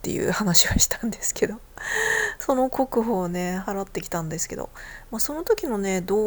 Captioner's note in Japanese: 息をのむ音